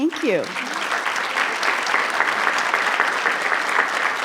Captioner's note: audience clapping